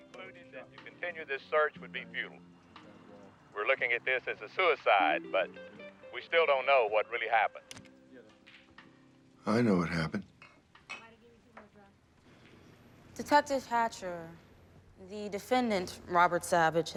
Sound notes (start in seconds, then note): 7.2 tv turns off